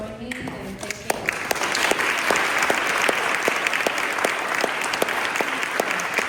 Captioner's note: applause